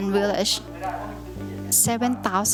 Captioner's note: speaking thai